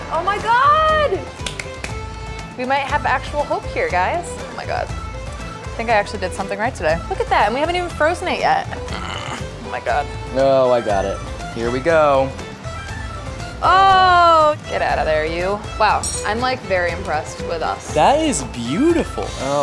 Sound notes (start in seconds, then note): 1.3 clapping; 8.7 groaning